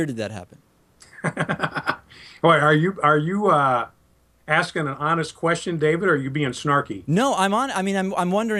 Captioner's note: laughs